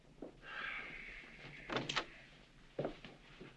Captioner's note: sighing